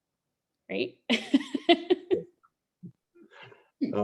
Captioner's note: laughs